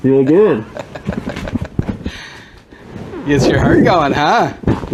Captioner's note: laughing